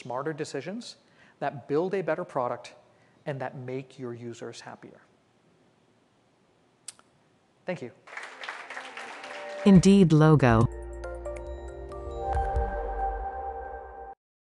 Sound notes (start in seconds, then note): 8.0 applause